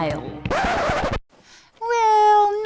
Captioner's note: record scratches, music stops